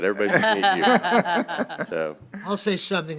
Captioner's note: laughter